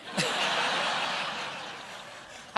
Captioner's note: laughter